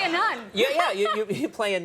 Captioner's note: Amy laughing